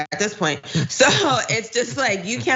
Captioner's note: laugh